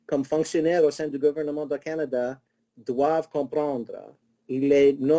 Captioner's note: speaking in foreign language